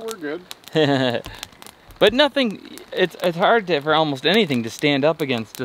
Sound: laughs

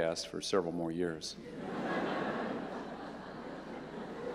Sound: laughter

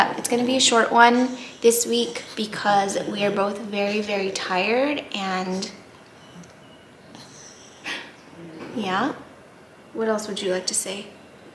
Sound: laughs

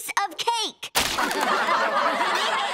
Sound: laughing

